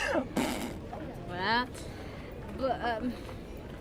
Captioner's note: Grantaire sneers; in french